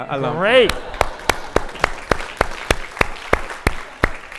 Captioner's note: audience applauding